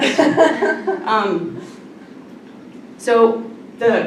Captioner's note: laughter